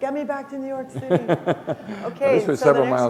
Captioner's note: laughter